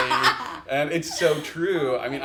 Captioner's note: laughs